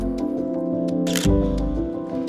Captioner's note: camera shutter clicks